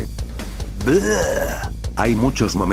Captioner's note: sound of disgust